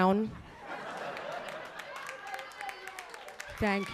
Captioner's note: audience laughing